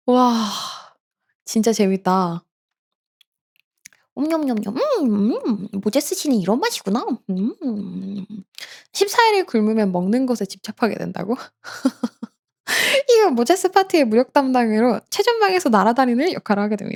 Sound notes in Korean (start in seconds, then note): 0.2 한숨; 11.6 웃음